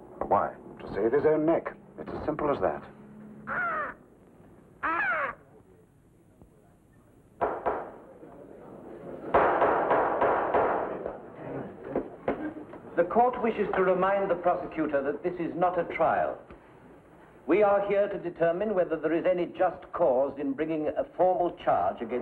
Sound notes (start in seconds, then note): 3.4 hawk squawks; 7.3 gavel bangs